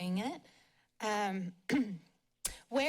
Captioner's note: clears throat